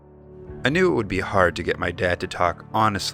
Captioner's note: voiceover